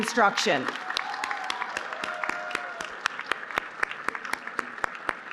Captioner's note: applause